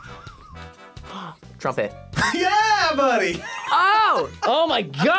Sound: both laugh; gasps

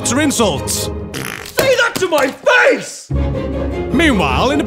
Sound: fart

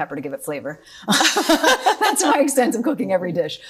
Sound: both laughing

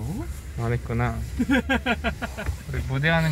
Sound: hahaha

